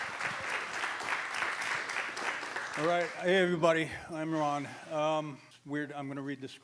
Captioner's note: applause